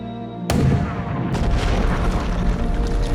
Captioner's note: gun shot